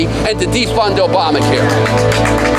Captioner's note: applause